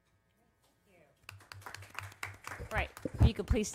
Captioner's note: applause